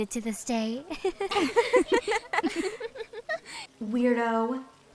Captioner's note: laughter